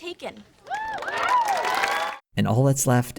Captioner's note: applause from the audience